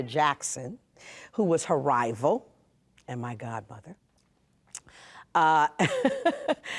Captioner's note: chuckles